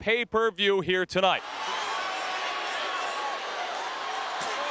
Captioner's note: crowd cheering